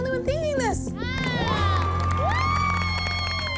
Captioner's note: cheering